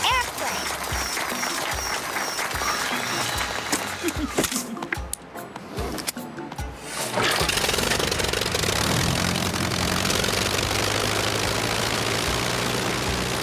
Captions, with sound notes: It's an airplane. (clapping) (engine revving)